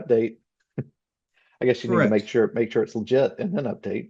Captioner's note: laughs